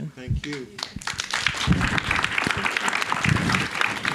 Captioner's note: all applauding